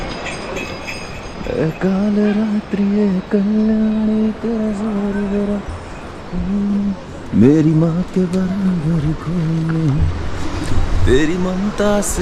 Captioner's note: humming